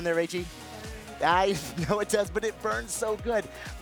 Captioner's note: chuckles